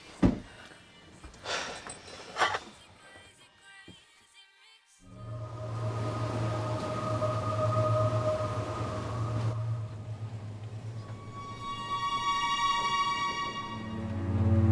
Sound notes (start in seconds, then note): 1.5 sighing; 5.0 ominous music